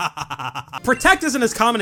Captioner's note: laughs